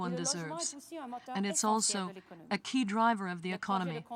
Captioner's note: speaking french